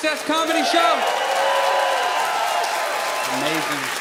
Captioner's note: audience cheers loudly